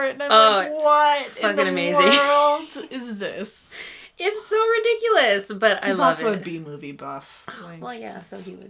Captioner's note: laughs